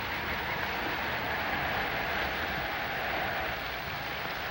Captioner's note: wind blowing